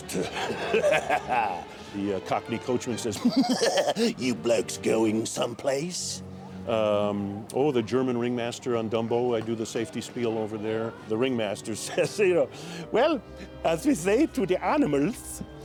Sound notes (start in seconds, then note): 1.8 normal voice; 3.8 cockney accent; 6.5 normal voice; 12.8 German accent